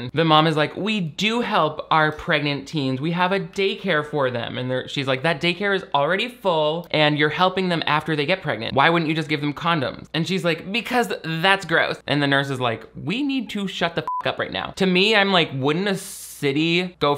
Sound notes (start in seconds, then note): 14.0 beep